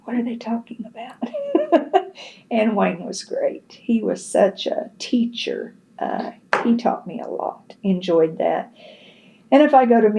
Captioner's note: laughs